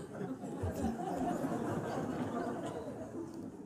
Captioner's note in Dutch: gelach